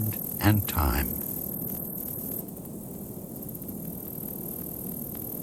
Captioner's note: birds chirping